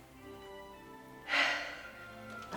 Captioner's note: sigh